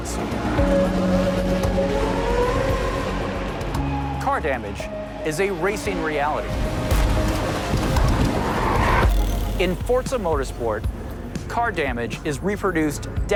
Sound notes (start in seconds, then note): 8.6 brakes screeching